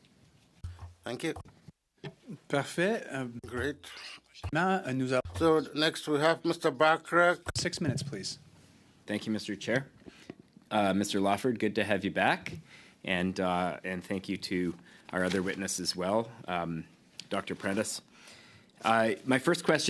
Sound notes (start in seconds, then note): 4.5 speaking in French